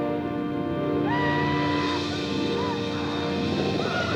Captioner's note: Apaches howl